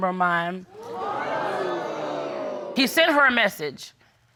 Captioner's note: crowd crining